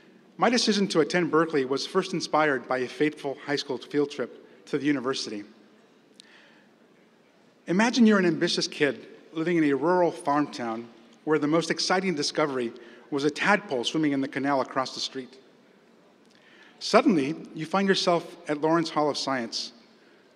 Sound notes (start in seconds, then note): none